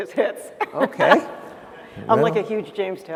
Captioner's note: laughter